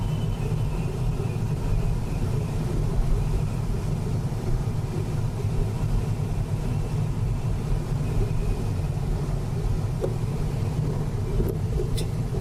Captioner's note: wind noise and wind whistling